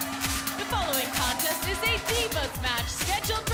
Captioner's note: bell ringing